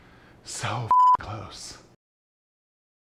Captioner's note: beep